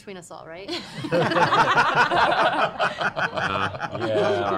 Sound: laughter

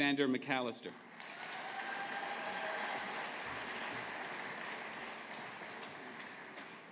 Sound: audience applauding

